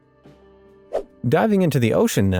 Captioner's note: swoosh